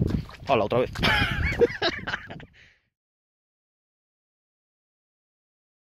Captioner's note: laughs